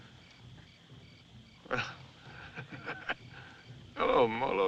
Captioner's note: laughs